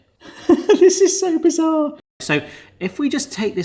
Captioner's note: laughs